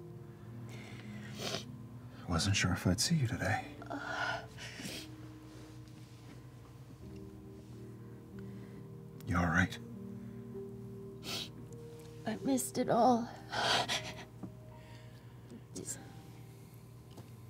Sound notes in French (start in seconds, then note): 4.6 souffle, renifle; 11.2 renifle; 13.5 sanglote